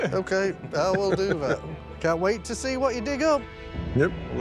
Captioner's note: laughs